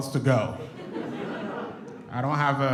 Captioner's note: audience chuckles